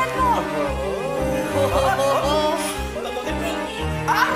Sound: both chuckling

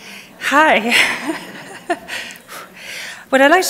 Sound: laughs

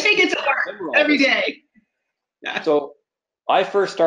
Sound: laughs

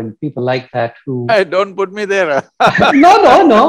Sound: laughs

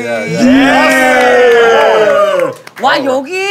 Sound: sound of cheering

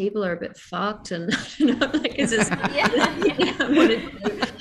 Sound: laughs

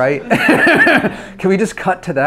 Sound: laughs

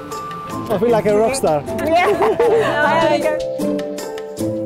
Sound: greeting chatter

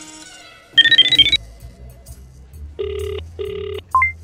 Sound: speeddial, ringing

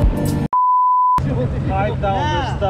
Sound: beep sound

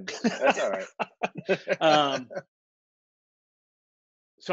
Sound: laughter

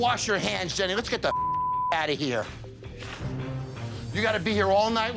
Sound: beep

